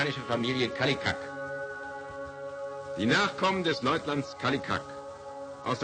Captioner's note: man in film speaking German